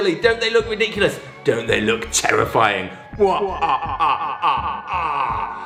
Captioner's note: cackles